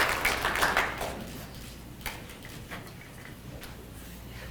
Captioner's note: people clapping